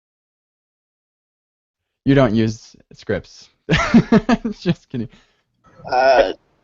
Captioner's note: laughs